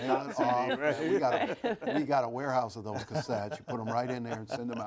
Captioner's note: laughter